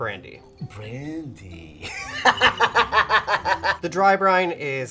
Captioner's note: laughs